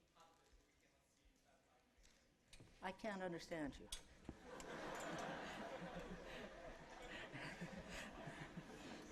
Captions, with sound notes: I can't understand you. [LAUGHTER]